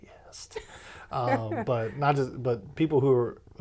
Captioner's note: laughs